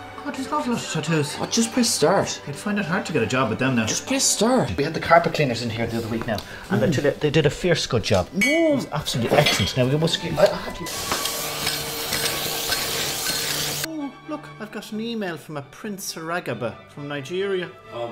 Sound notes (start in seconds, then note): 10.8 loud vacuuming noises